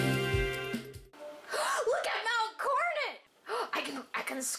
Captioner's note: inhales; inhales